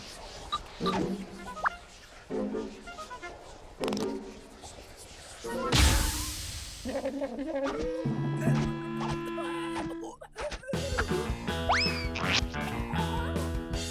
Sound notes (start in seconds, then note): 7.4 gasping and gagging